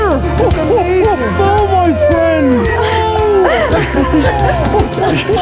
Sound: overlapping chuckling

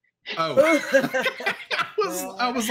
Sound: group laughs

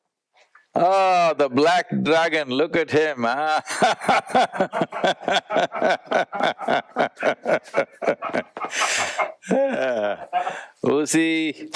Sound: both laugh

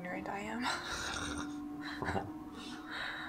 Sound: laughing

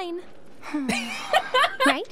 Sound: laughter

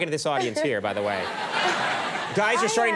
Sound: audience laughing

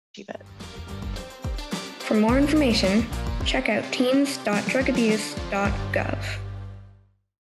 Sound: female voice over

